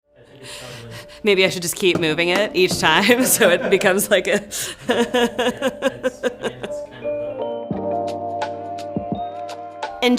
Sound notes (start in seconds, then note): 4.8 laughs; 6.7 lo-fi hip-hop music